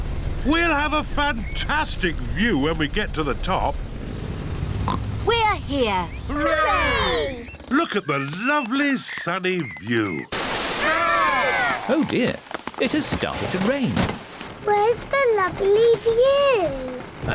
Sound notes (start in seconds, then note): 4.8 oinks